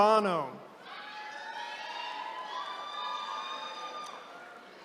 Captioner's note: attendees cheering